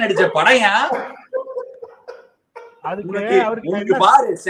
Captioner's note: laughs